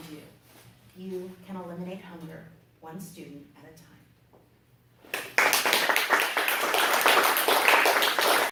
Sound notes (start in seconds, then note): 5.1 applause